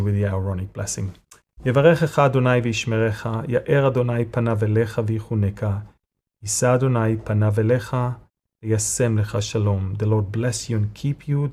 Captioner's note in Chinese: 用希伯来语做亚伦的祝福